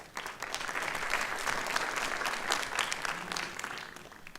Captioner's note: applause